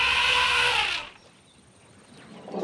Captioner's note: trumpeting